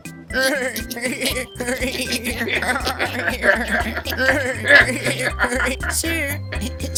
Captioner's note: laughter